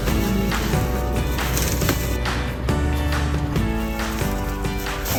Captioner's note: door thudding; upbeat music; bags crinkling